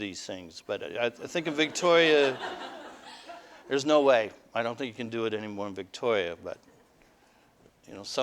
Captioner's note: audience: Laughter